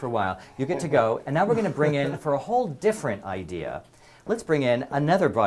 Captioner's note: laugh